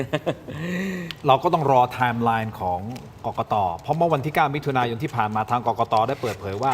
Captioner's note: laughter